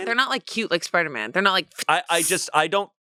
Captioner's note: hisses